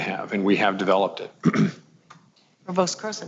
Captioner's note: clears throat